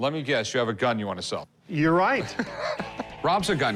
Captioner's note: laughs